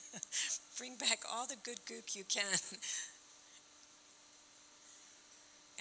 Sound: chuckling

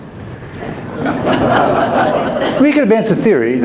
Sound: audience laughs

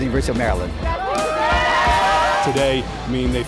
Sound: cheering

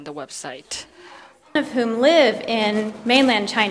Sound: speaks in Mandarin

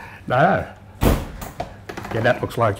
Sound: door slamming

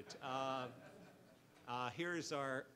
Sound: audience laughs

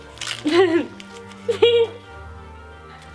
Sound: laughing

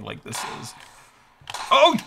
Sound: gunshots firing

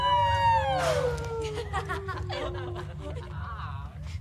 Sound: sighs; laughing

